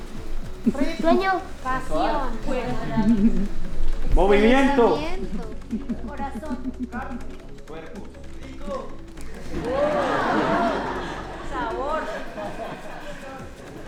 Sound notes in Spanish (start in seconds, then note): 9.4 risas